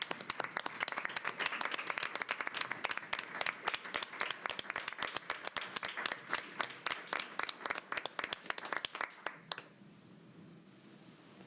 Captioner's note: applause